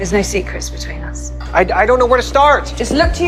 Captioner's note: voiceover